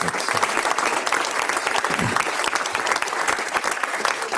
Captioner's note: audience applauds